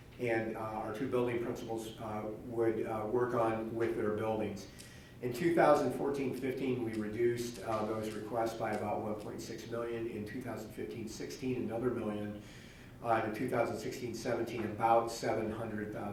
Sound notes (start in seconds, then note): none